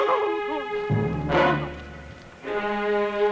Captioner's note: crying